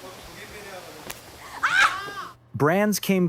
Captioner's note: screams